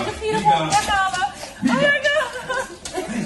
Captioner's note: foreign accent